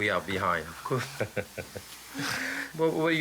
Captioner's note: laughs